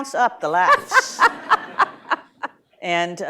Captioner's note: laughter